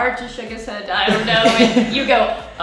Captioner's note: laughing